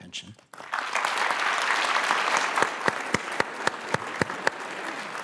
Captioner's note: applause